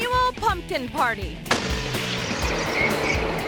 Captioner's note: explosive popping; pumpkin whooshing